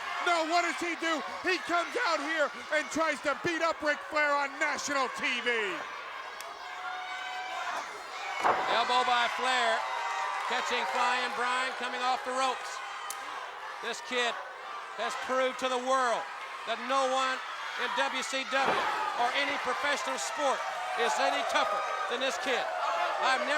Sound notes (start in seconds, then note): 6.4 body thudding; 6.4 footsteps plodding